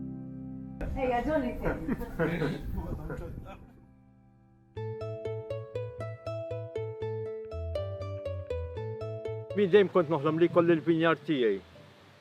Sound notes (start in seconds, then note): 1.4 everyone laughs; 5.8 mellow music